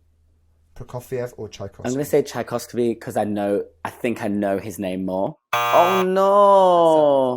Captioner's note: buzzer sounds